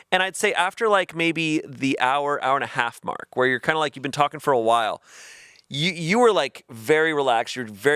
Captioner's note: none